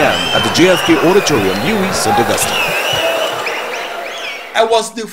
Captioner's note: wild applause and cheering for 22 seconds